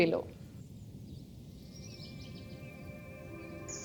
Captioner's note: birds chirping